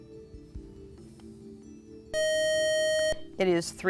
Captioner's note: buzzer